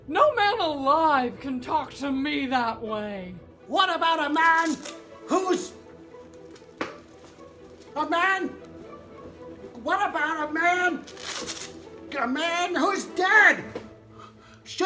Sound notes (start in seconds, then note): none